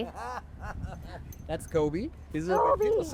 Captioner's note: laughing